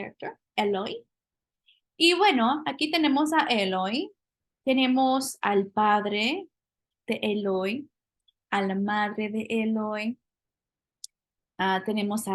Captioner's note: speaking spanish